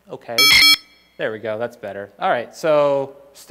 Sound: even faster modem shrieking

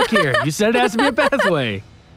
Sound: laughs

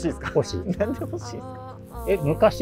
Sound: laughing

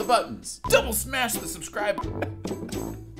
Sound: chuckles

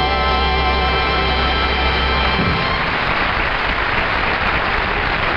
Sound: dramatic music; audience applauding

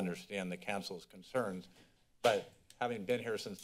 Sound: door slams

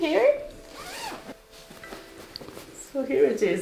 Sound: bag zips

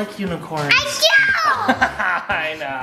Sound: laughs

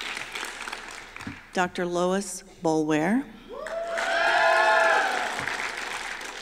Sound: applause

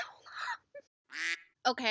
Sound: quack

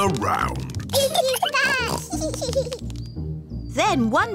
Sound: both giggling

